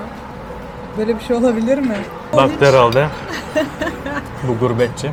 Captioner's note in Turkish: kahkaha